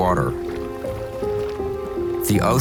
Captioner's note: water sloshing